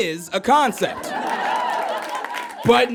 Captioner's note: audience laughs and applauds